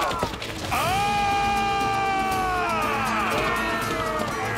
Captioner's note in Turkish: Bağırıyor